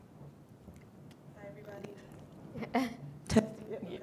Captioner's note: chuckles